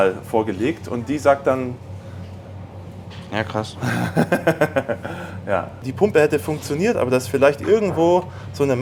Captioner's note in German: gelächter